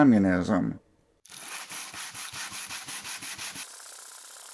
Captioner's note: sanding sounds; furious sanding sounds